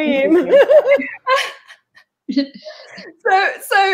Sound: laughs

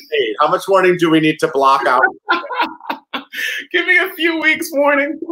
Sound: laughs

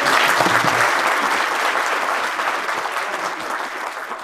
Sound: audience clapping

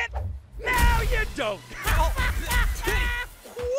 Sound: laughs

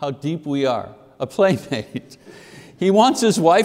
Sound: chuckles

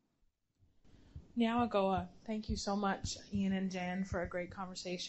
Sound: non-english speech

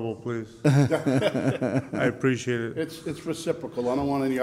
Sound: laughs

